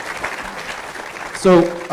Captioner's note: applause